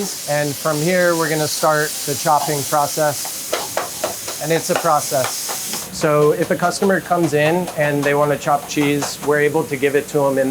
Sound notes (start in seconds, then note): 3.0 meat sizzling; 3.5 knife clanking